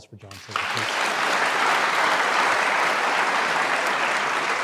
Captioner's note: audience applauds